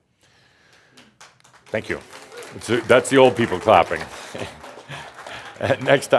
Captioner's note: he chuckles